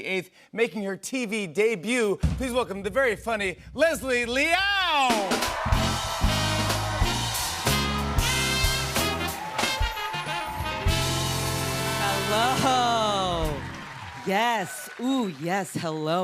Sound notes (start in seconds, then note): 6.0 cheers and applause